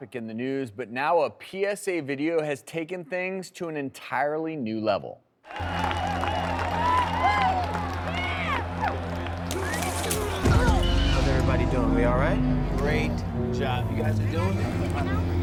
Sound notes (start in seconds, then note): 5.4 cheering; 5.6 intense music